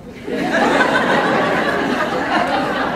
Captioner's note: laughter